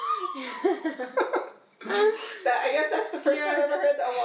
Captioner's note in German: Mama lacht